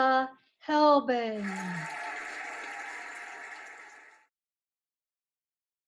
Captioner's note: cheering and applauding